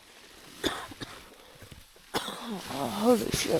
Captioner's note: coughing